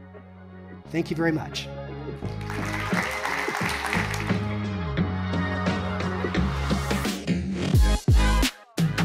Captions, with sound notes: Thank you very much. (audience clapping) (upbeat music)